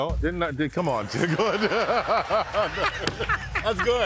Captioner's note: drum beat; laughter